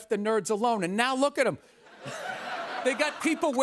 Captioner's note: laughter